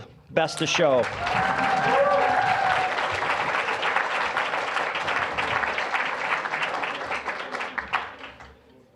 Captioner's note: applause